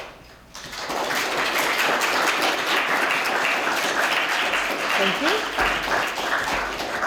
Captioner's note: applause